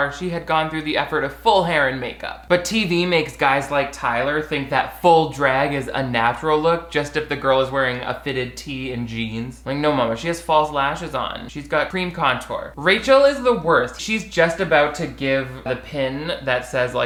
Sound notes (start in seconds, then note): none